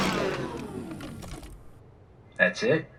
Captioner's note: metal clangs